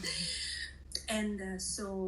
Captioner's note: laughing